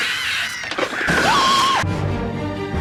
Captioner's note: scream